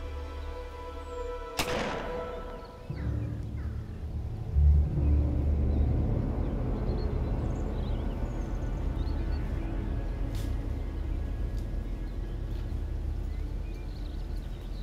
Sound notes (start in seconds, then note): 1.5 gun fires; 2.3 ominous music